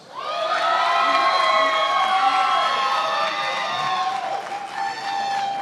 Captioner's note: attendees applauding and cheering